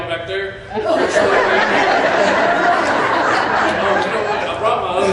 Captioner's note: laughter